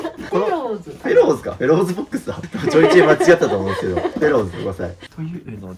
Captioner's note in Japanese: 笑い